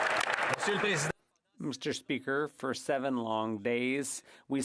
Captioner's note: speaking French